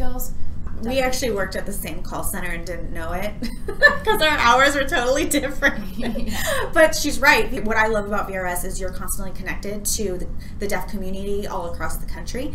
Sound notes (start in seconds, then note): 3.4 laughs